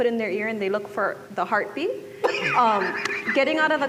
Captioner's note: laughter